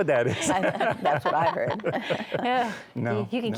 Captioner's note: laughs